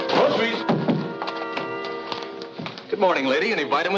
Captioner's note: door knocks